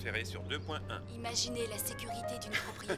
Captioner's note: voiceover